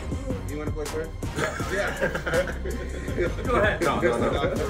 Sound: laugh

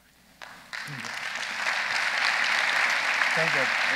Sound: audience applauding

